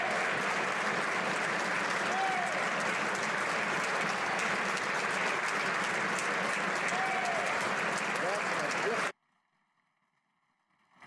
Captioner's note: applause